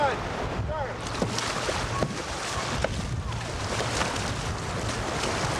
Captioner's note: paddles splashing